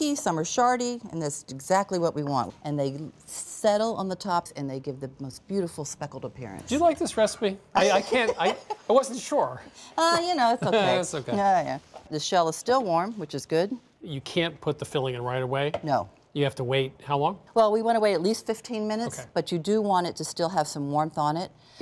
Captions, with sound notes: Some are chunky, some are shardy, and that's exactly what we want. And they settle on the tops, and they give the most beautiful speckled appearance. - Do you like this recipe? I can't... I wasn't sure. - (laughs) Ah, you know, it's okay. - It's okay. - Yeah, yeah. The shell is still warm, which is good. - You can't put the filling in right away? - No. - You have to wait how long? - Well, we want to wait at least 15 minutes. But you do want it to still have some warmth on it.